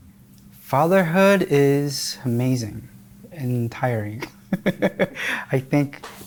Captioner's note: chuckles